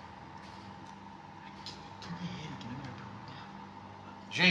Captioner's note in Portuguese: sussurrando